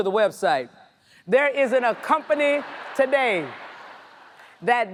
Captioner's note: audience laughs